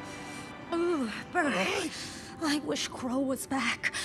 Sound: shivering

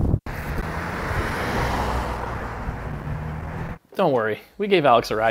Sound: car driving past

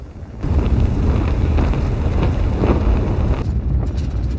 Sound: satellite whooshing; metal clanking

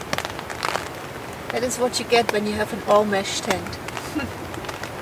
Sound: laughs

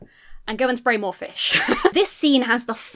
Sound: laughs

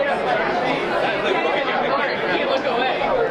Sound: group chattering

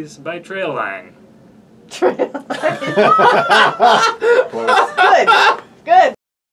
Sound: laughing

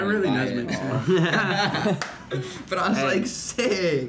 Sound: laughing

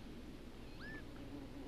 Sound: bee buzzes

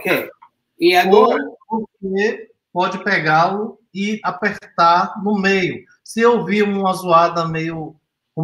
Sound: speaks portuguese

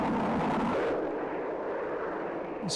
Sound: plane engine roaring

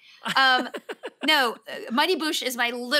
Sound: laughs

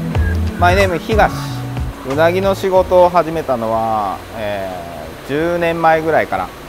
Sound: speaking in foreign language

